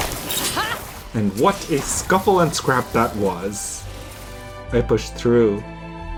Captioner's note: machines whirring